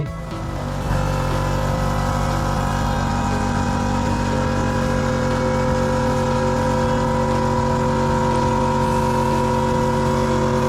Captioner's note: compressor engine sound